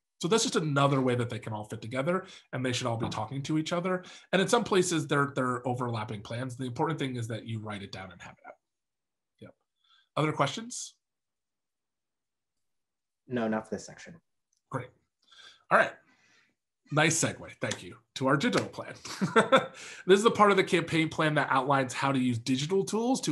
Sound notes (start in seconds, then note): 19.1 laughs